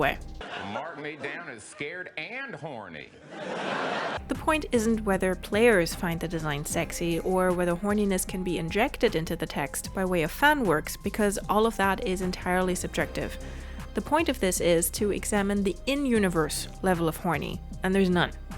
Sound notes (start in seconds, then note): 3.1 laughter